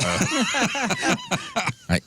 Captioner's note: laughing